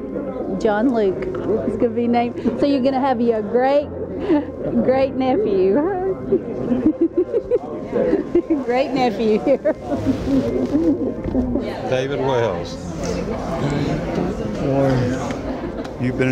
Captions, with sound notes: A boy, John Luke, he's going to be named. So you going to have you a great great nephew. [Giggling] Great nephew here. David Wells. David, how are you?